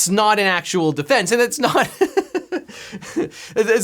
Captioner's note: laughs